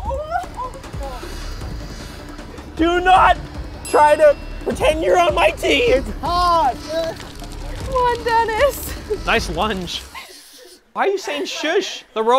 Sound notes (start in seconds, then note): 1.3 intense music; 10.1 hushing